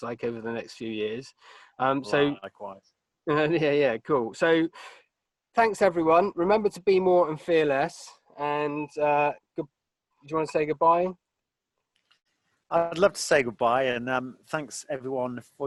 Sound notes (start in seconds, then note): 3.7 laughing